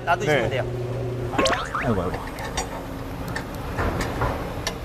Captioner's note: stuttering, stuttering